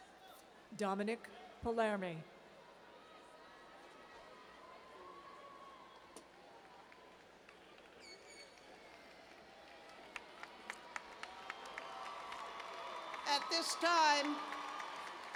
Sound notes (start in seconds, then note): 11.3 cheers and applause